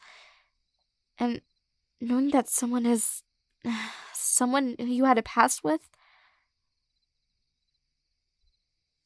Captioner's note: sigh